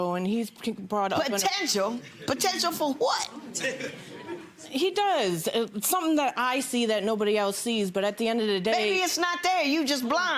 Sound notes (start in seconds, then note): 3.1 audience laughs